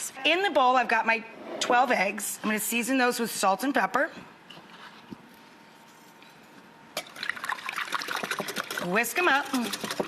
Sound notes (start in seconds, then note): 7.0 eggs sloshing